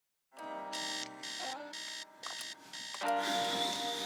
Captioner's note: alarm clock beeps